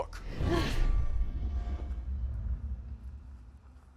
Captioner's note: dramatic swishing